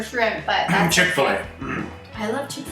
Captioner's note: coughs